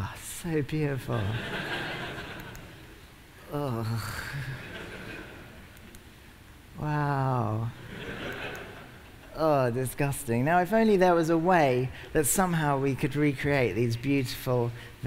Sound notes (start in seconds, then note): 7.8 laughter